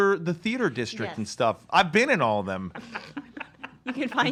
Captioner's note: laughs